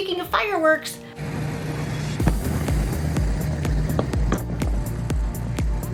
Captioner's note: firework explosion